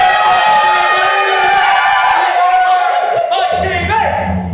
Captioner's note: audience cheers